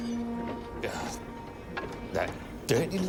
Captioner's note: groans